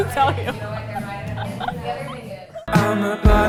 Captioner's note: both laughing